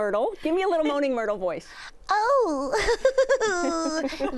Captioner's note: As Moaning Myrtle; laughs; laughter